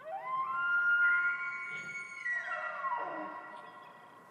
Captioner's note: elk bugling